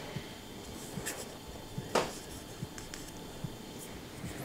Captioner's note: quiet humming in the background